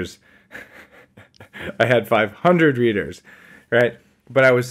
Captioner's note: laughing